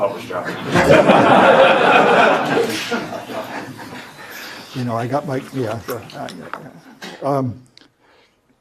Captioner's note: laugh